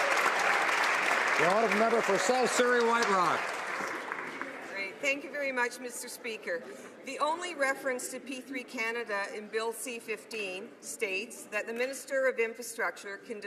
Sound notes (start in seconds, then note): 0.0 some Applause